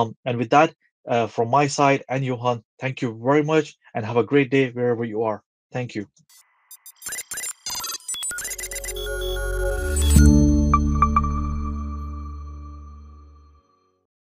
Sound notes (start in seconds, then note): 6.7 synthetic beeping; 10.5 atmospheric chiming